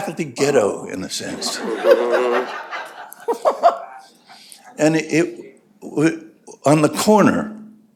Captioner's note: laughter